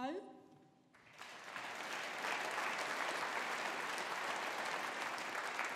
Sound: audience applauding

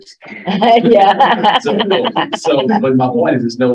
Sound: laughs

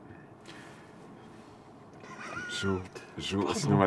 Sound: laughs

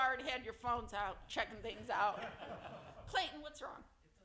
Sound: attendees laugh

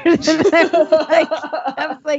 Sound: laughing

